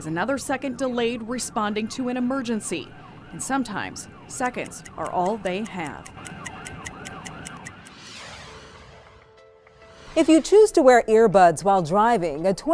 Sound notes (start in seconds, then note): 6.7 clock ticking; 6.7 police sirens blaring